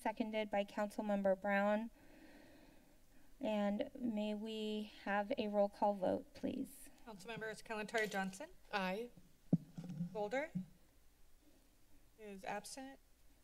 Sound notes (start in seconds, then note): 9.5 mic thump